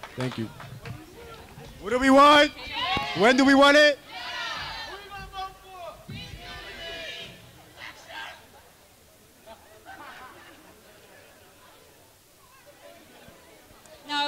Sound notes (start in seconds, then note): 2.8 crowd